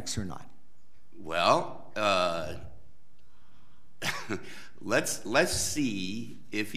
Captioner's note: chuckles